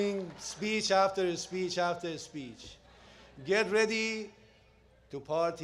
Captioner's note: applause